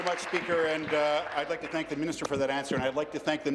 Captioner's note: applause